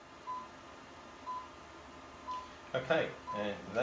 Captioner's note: machine beeps